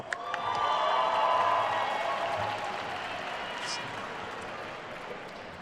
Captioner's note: attendees cheering and applauding